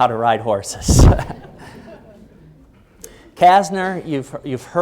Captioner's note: chuckling